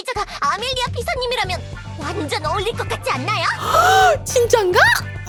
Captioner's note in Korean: 비명